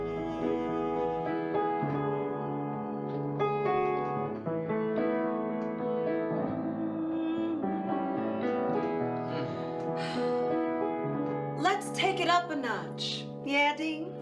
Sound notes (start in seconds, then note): 0.1 gentle piano music; 0.1 singer humming; 7.3 singer humming; 9.3 singer sighs